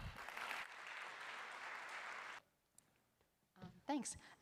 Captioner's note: applause